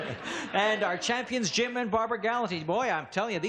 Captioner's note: laughing